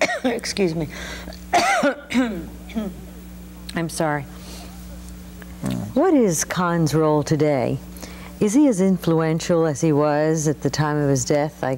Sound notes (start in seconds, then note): 1.4 coughing